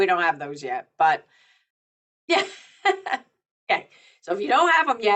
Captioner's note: chuckles